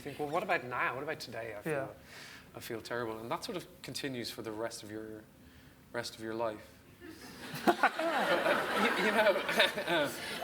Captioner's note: audience laughs